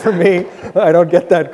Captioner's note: audience laughs